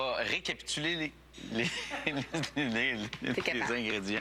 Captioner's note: rires